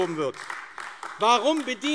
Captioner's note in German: Beifall